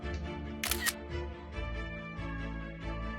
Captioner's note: camera shutter sound